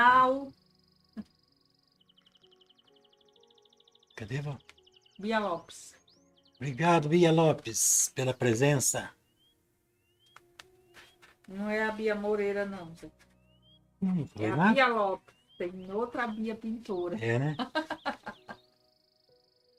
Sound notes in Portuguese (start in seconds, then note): 17.3 risadas